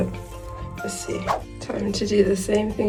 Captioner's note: whoosh